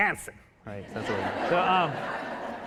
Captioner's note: audience laughing